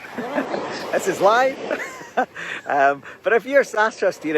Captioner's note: laughs